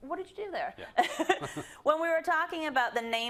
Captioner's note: laugh